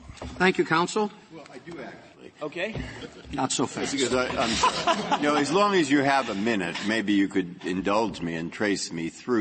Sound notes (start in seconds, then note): 3.7 laughter